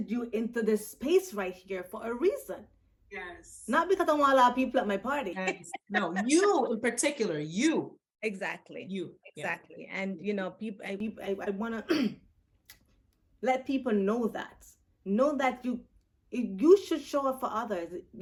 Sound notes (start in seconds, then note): 11.8 clears throat